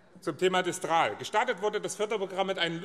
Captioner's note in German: none